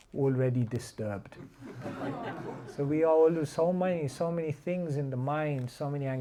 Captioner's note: laughter